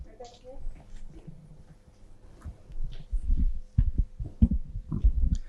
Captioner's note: speaker speaks faintly